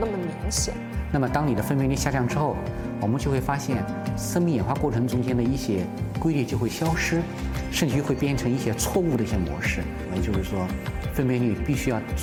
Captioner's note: speaking Chinese